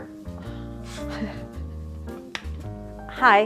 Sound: quietly laughing

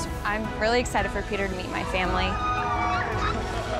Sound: both yell

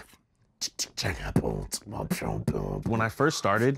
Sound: beatboxes

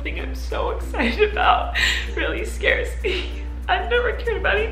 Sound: none

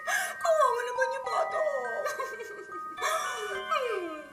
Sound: mock sobs

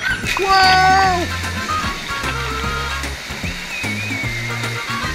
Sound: water splashing; upbeat music

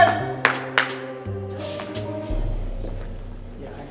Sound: clapping

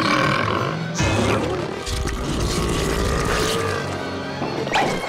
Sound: belching

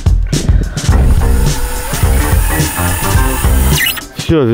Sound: construction sounds

